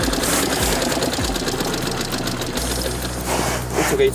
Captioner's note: il motore si ferma